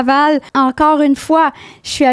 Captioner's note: in french; french; in french